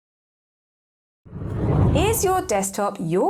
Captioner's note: air whooshing